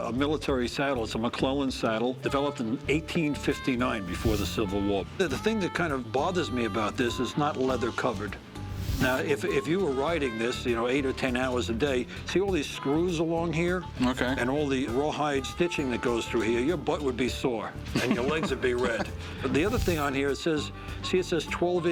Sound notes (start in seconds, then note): 17.9 laughs